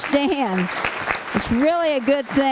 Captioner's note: applause